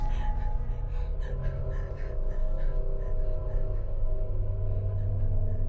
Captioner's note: Heather breathing heavily; soft tense music